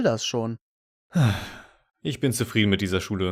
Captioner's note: satisfied sigh